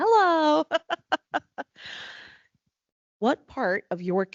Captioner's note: laughing